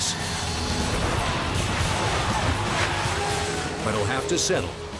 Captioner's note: engine roars